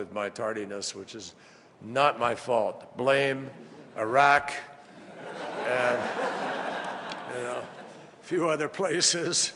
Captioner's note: laughter